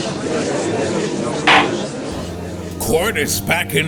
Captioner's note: gallery chattering; gavel slam!